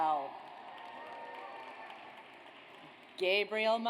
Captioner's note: audience applauds